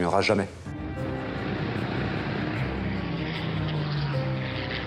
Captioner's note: engine rumbling